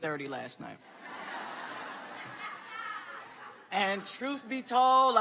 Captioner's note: audience laughing